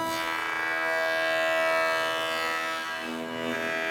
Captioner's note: saw noise